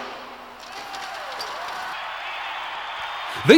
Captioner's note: crowd cheers